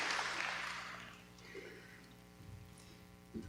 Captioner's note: applause